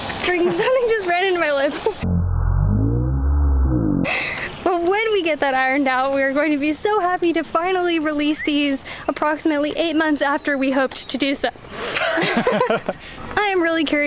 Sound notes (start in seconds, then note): 11.9 laughter